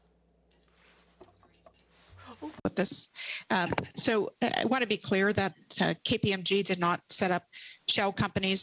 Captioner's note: speaking French